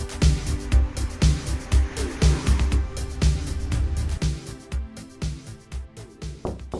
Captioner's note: engine hums; upbeat, cheery music; Aaron knocks